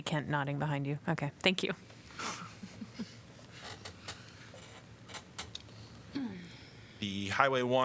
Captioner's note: laughter